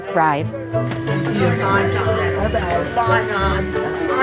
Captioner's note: indistinct chatter